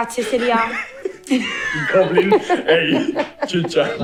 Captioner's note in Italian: Risate